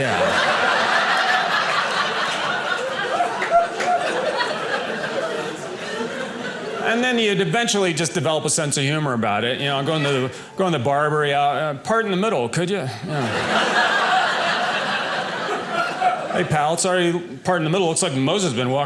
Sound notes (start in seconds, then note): 0.0 audience laughing; 13.0 audience laughing